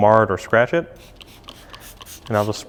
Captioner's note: spraying